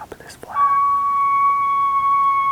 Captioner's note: caller bugling